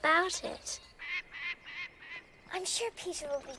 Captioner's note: bird squawking